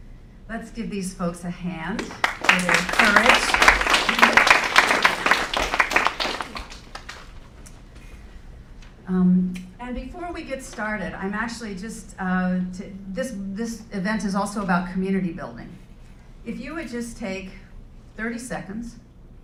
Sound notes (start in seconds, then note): 1.9 applause